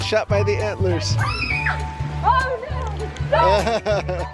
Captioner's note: kids squeal; giggles